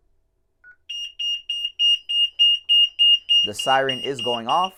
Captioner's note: beeps